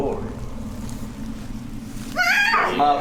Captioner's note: woman screams